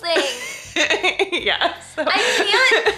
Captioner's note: laughs